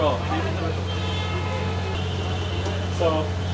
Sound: sizzling

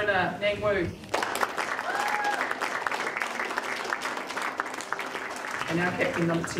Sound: audience cheering and applauding

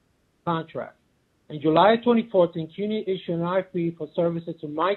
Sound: murmurs

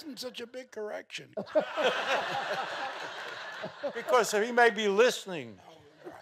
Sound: laughing continues

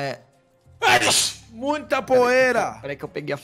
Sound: sneeze

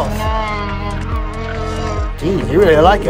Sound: ankylosaurus coos

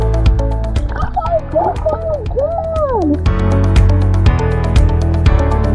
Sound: muffled yelling

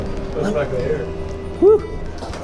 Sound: sighing

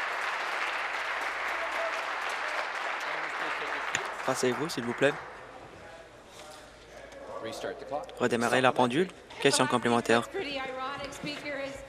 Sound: applause

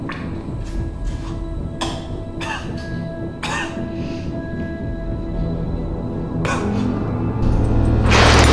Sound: chokes and gurgles blood

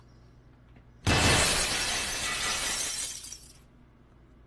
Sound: glass shatters

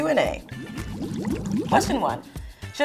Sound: water bubbling

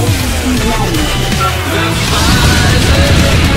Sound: bE-EP

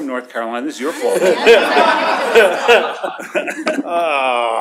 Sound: laughter

